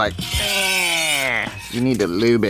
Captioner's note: metals cracking